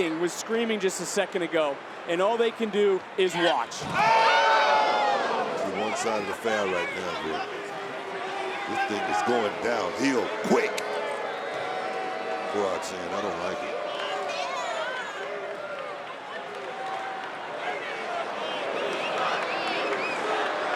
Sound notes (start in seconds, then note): 3.9 crowd yelling; 7.7 crowd booing; 10.9 crowd booing; 15.7 crowd booing